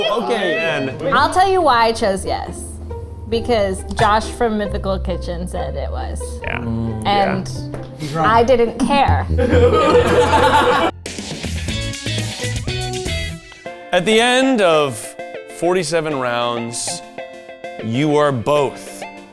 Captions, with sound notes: - Okay. - Oh man. - I'll tell you why I chose yes. Because Josh from Mythical Kitchen said it was. - Yeah. - And I didn't care. (all laughing) (bright music) - At the end of 47 rounds, you are both the worst Try Guy.